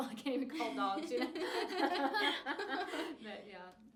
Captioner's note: laughing